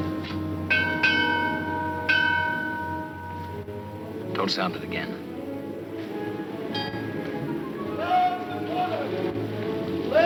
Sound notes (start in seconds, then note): 0.6 bell clanging; 6.7 bell rings